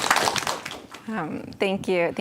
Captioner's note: applause and cheering